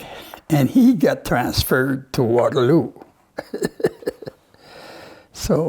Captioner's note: Rires